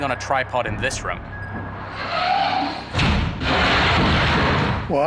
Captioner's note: door creaking; loud scratching